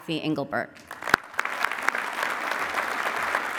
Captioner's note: applause